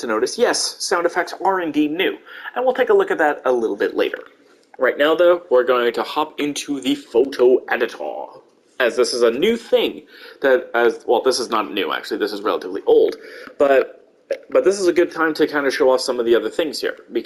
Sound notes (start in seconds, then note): 6.1 slightly dramatic voice; 8.5 normal voice